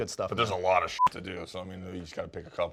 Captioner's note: beep